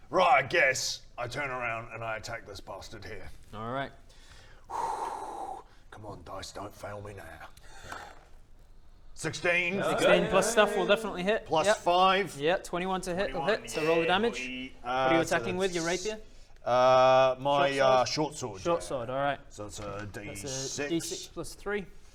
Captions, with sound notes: Right, I guess I turn around and I attack this bastard here Alright *Deep breath* come on dice, don't fail me now 16. Hmmm, yeah... 16 plus stuff will definitely hit Plus 5 Yep 21 to hit, that hits - So roll the damage - Yeah boi! What are you attacking with? Your rapier? Uh, my shortsword Shortsword, alright So that's a d6, d6 + 3